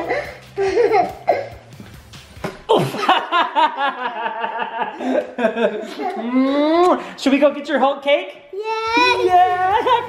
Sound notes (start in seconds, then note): 0.0 giggling; 2.7 laughs